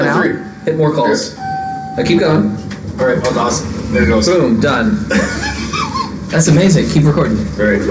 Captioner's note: laughing